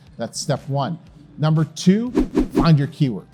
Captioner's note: text whooshing